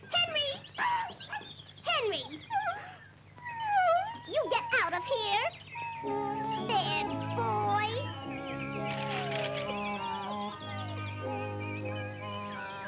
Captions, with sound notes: Henry. (Pudgy barks) Henry! (Pudgy whines) You get out of here! Bad boy. (sad orchestral music)